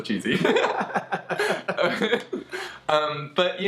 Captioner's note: both laughing